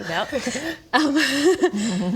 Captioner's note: nervous giggle